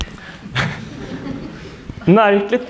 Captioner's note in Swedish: skratt